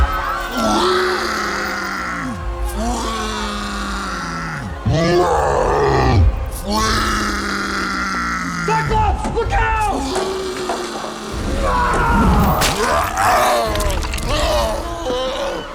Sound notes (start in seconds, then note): 4.9 roars; 12.9 groaning